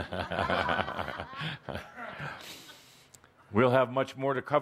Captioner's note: audience laughter, chuckling